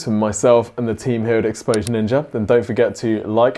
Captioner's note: mouse clicking